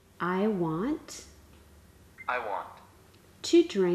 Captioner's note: male voice from device